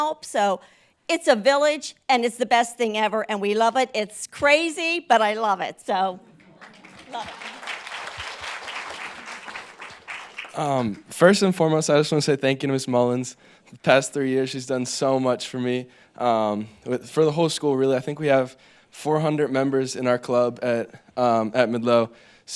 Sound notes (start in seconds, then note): 6.3 group applauds